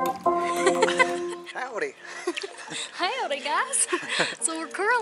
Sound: laughter; in a southern accent

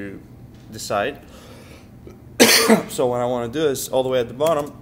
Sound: cough

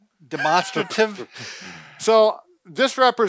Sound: chuckles

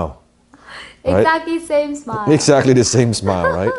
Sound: laughing

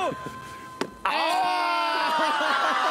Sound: hitting

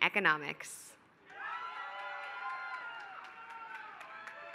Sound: applause

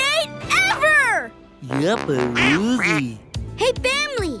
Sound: quacking

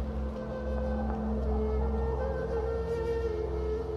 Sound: quiet footsteps

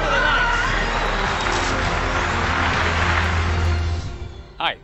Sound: crowd cheering

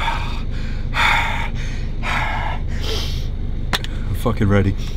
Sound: breathing heavily

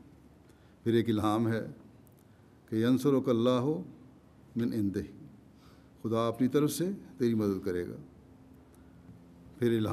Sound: Arabic

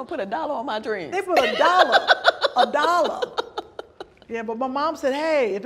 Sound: laughs loudly

